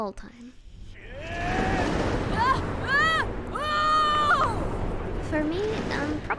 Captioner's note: Johnny and V screaming